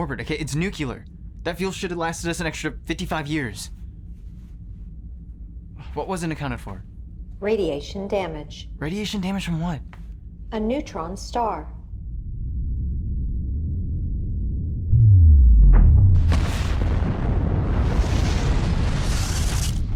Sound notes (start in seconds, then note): 13.2 deep pulsating; 16.1 star explodes